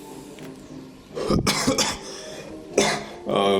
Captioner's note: coUgh